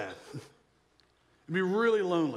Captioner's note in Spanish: risas